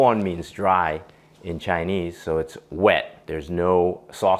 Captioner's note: Cantonese